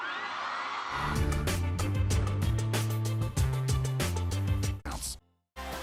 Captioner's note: crowd cheering